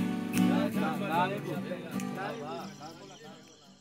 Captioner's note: bubble of voices, crickets chirping